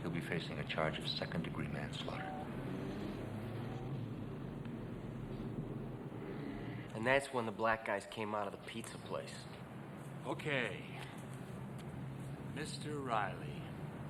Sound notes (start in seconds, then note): 3.5 vehicles humming